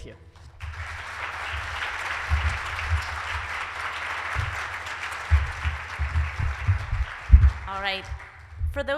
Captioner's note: applause